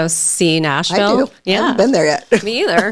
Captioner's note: laughs